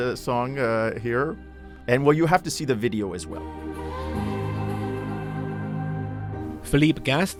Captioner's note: voiceover